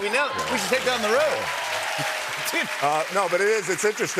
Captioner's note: cheers and applause